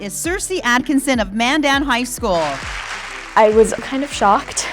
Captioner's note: applause